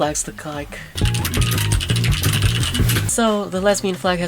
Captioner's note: loud keyboard clacking